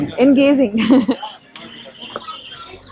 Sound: chuckles

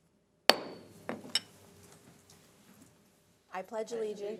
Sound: gavel bangs

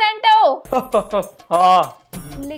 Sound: Santa laughing

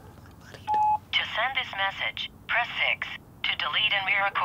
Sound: laughs; on phone

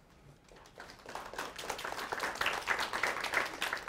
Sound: applause

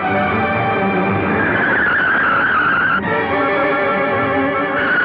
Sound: tires Screeching

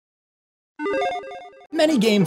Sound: text beeps

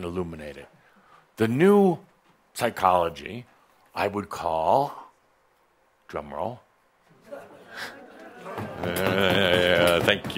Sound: audience begins stomping their feet

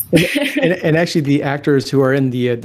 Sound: laughing

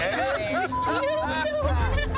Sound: beep

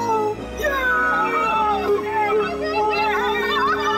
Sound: cheering

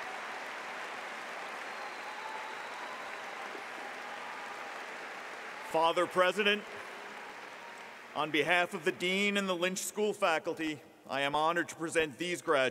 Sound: applause

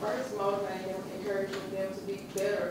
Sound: voiceover

